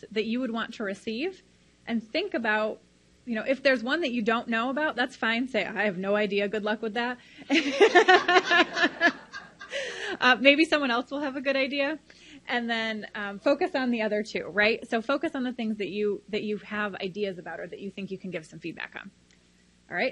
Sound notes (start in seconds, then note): 7.5 laughs loudly